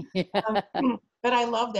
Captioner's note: laughs